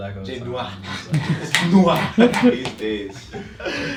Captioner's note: snaps